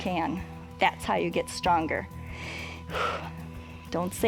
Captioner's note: inhales and exhales